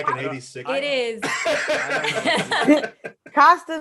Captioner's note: panelists laughing